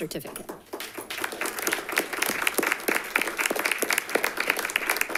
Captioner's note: attendees applauding